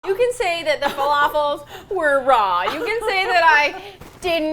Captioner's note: laughing